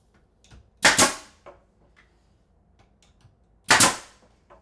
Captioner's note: nail gun clicking